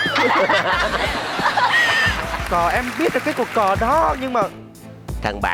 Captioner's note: laughing